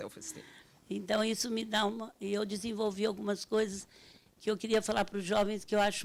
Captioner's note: speaking Portuguese